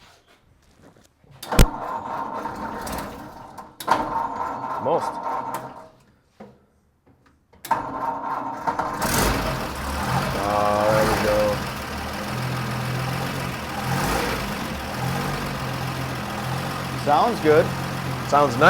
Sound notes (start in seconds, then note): 1.6 engine revs; 9.2 engine turns over